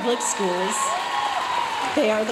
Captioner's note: audience cheering and applauding